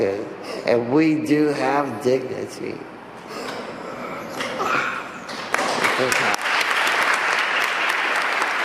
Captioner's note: applause